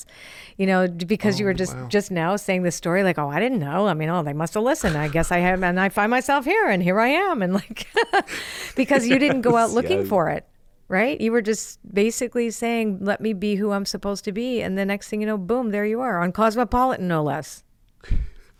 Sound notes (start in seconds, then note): 8.7 laughs